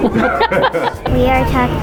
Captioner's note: laughs